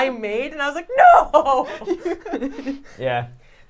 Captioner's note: laughs